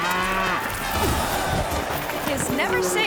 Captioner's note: bull lowing; thuds